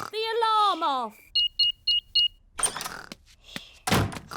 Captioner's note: beeping